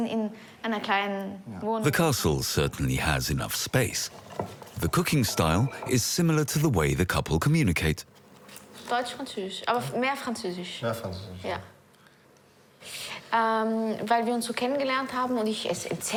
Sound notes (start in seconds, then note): 8.8 speaking foreign language